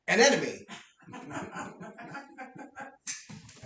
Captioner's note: laughter